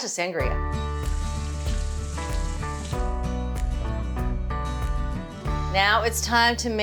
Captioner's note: bright upbeat music; water splashing